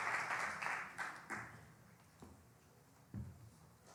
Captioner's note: applause